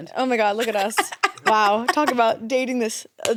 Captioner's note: laughs